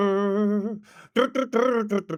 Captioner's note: humming